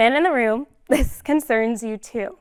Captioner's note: laughter